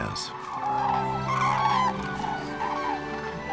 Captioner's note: birds hooting